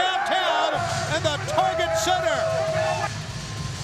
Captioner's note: crowd cheering